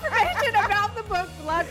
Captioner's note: laughter